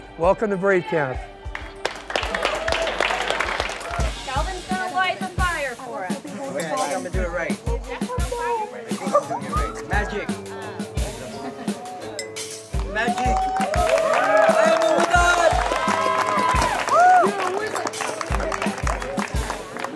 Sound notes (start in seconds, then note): 1.5 kids clapping; 12.7 kids clapping